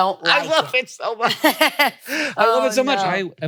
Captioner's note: laughs